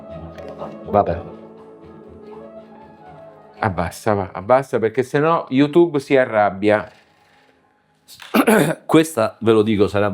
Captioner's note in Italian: schiarire la voce